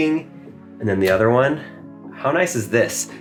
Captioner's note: panel clicking